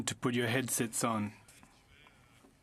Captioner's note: speaking French